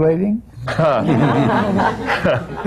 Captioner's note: laughter